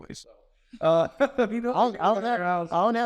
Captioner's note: speakers laugh